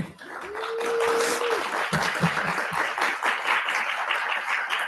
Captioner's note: audience clapping